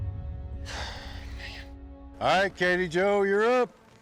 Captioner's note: sighs deeply